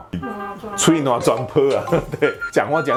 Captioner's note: Taiwanese